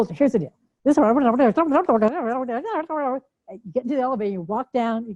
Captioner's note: chattering